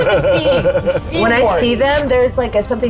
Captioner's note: laughs